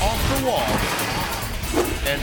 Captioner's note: fence rattles